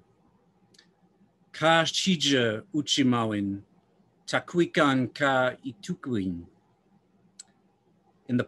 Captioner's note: non-english speech